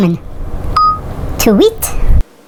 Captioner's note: phone beeping